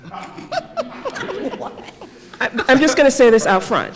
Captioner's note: laughter